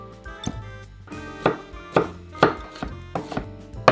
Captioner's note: knife cutting